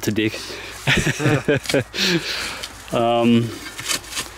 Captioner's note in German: Lachen